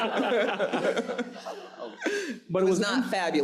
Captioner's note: audience laughs